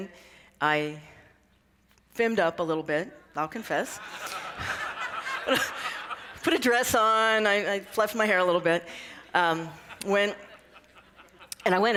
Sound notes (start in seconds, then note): 3.9 laughter